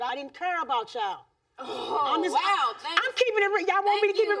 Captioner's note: audience gasping